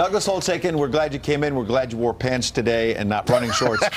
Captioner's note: laughter